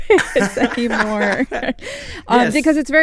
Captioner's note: laughter